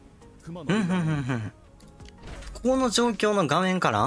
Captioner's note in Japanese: 笑い